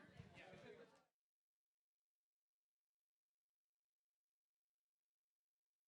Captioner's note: people chatter indistinctly